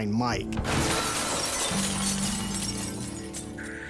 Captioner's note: glass shattering